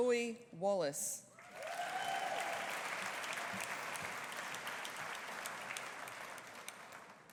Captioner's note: audience applauding; audience cheering